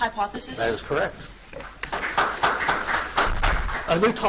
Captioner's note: audience applauds